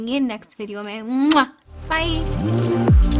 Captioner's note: kisses